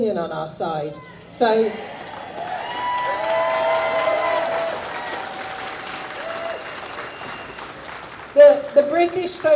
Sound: audience cheers

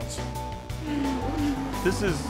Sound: cars zooming

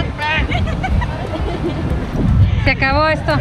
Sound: laughter

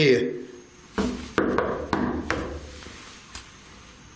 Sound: knocks

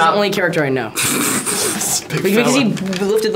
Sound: Asher laughs

